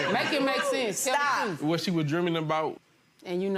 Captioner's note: audience laughing